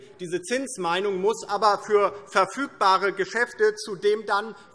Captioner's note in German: none